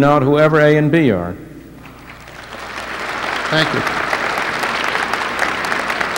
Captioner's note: applause